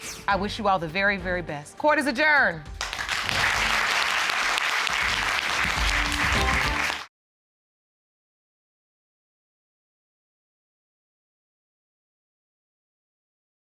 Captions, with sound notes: I wish you all the very, very best. Court is adjourned. [audience applauds]